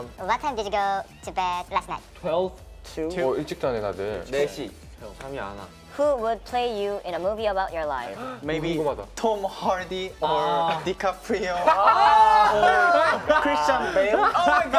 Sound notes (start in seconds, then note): 3.6 speaking Korean; 8.7 speaking Korean; 11.2 all laughing